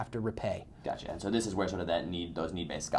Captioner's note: voiceover